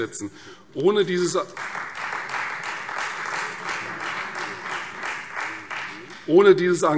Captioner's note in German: Beifall Freie Demokraten